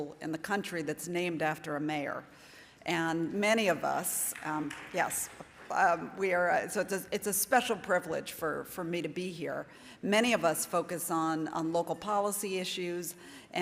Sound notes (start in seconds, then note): 4.3 audience clapping